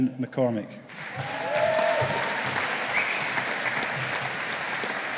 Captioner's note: audience applauding